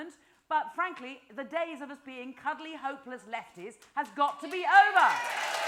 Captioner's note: applause